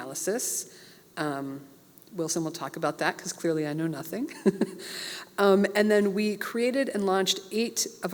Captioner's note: laugh